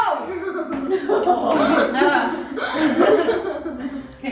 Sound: giggling

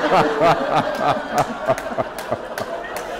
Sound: laughter

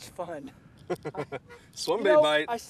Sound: laughter

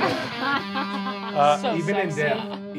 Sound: guitar riff plays; laughing

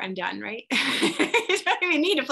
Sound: laughs

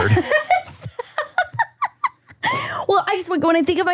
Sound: laughing

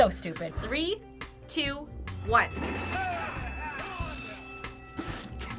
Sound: bell rings

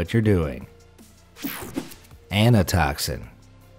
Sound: image whooshing

